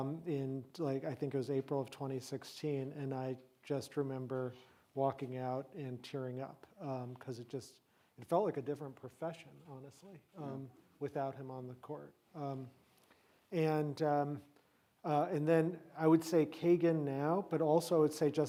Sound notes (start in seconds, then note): none